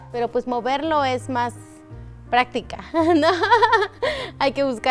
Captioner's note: speaking foreign language